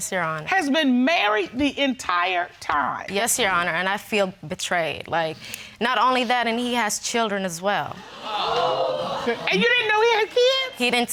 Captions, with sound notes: Yes, Your Honor. ...has been married the entire time. Yes, Your Honor, and I feel betrayed. Like, not only that and he has children as well. (AUDIENCE GASPING) And you didn't know he had kids?